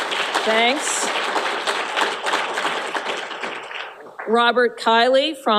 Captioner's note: applause